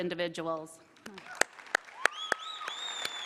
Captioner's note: applause